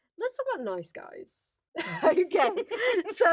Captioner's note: laughs